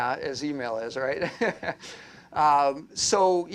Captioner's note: laughter